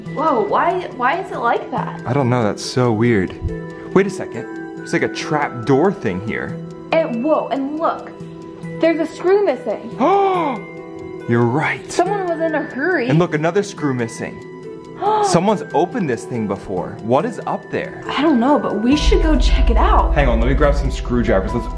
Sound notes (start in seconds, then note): 10.0 gasps; 15.0 gasps